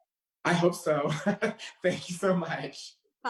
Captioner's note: laughs